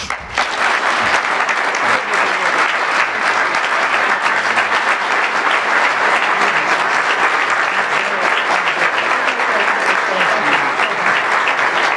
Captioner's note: applause